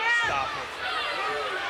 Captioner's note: none